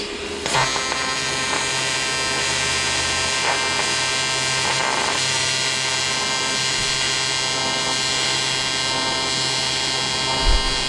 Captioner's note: electrical Buzzing Sound